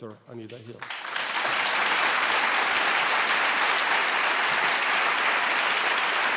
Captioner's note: applause